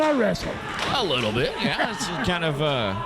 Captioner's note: chuckling